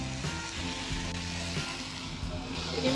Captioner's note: skillet sizzling